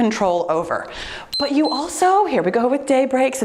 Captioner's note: timer beeps